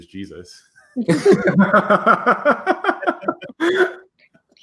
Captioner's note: laughter